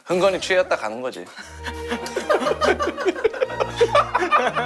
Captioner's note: fails to hold back laughter